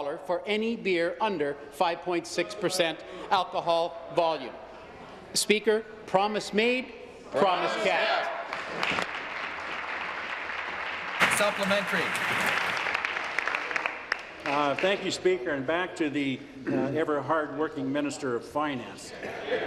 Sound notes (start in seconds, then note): 12.6 applause